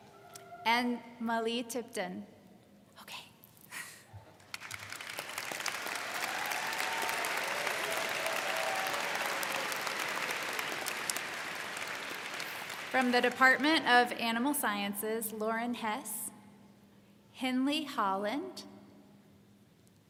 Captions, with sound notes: and Malei Tipton. Okay. (all clap) - From the Department of Animal Sciences, Lauren Hesse, Henley Holland, Dixie Posey,